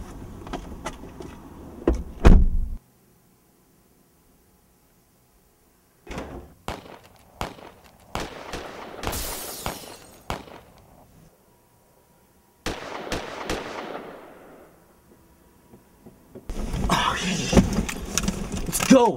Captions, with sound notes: (Door Close) (Multiple Gun Shots and Break Glass) (Multiple Gun Shots Again) Oh sh- Let's go.